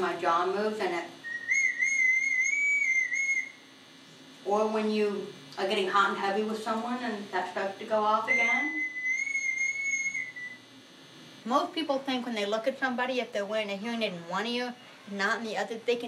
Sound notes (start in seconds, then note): 1.2 whistling; 8.2 whistling